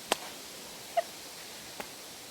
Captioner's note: giggles